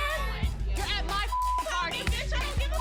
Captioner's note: beep